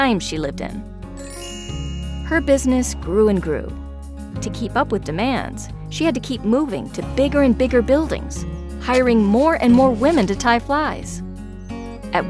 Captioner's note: chiming sound